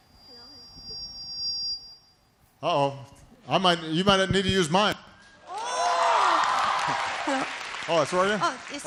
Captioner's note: laughter